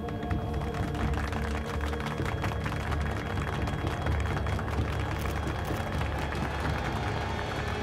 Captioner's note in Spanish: aplausos